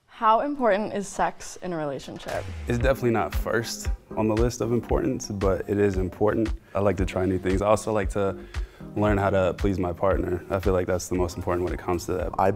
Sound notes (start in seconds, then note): none